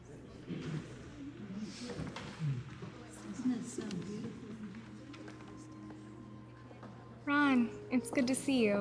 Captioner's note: indistinctive chatter